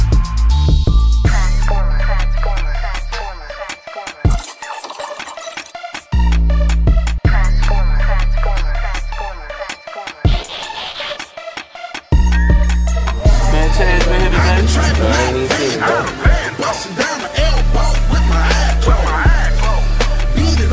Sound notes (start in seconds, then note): 0.2 moody trap music; 13.1 men chatting; 13.9 moody trap music continues